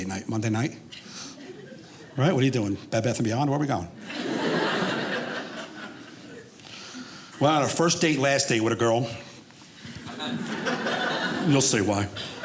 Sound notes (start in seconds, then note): 4.0 audience laughing